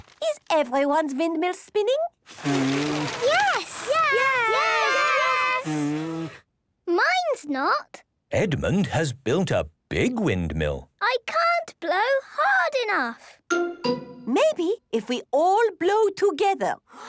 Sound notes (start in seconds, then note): 2.3 blowing, fluttering; 6.2 blows